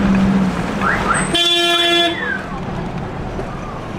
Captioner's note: loud honking